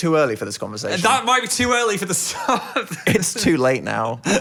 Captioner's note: laughs